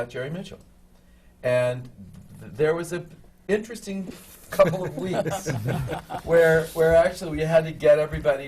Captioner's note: laughter from the panel